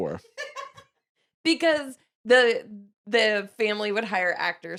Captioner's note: laughs